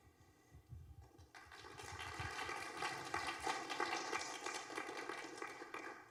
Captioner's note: applause